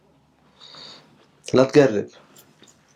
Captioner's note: Arabic